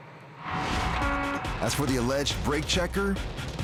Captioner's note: horn honking